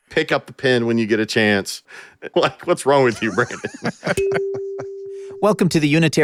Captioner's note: laughing; laughter